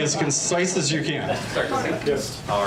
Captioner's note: audience laughs